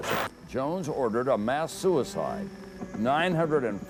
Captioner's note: voiceover